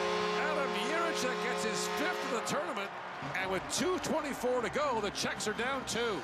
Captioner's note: horn Blowing